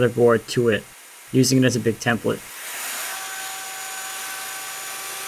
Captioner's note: machine whirs